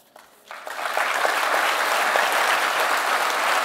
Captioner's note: audience applause